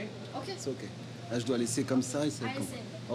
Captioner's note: speaking foreign language